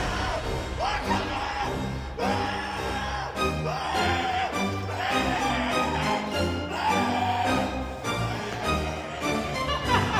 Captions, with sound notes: What the fuck! [screaming]